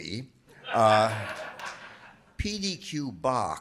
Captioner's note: audience laughing